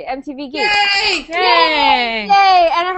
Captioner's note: cheering